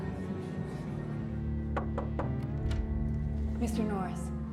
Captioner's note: knocking